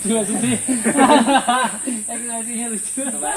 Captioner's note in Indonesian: Tertawa